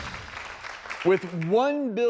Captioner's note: audience applauding